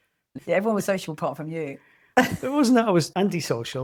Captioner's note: laughs